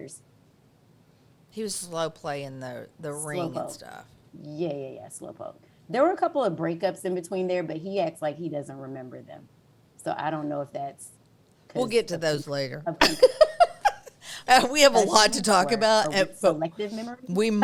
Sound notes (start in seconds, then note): 13.0 laughs